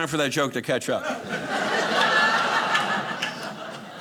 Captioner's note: audience laughing